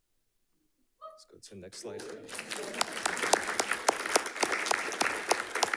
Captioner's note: audience applauding